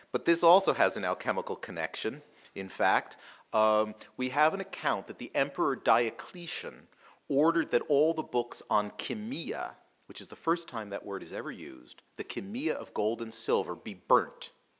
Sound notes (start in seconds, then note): none